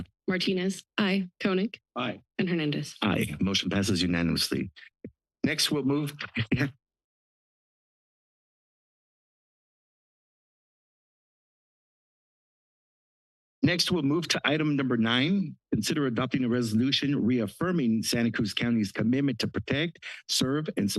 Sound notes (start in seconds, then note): 6.1 chuckle